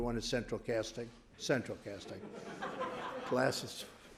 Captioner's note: laughter